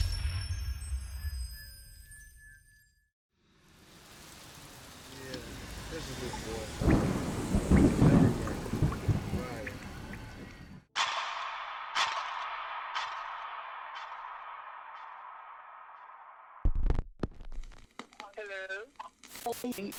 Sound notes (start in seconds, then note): 7.2 quiet talking; 7.2 thunder crashing; 11.0 dramatic rhythmic music; 19.7 crackling static